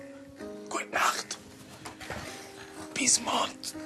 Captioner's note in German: Flüsternd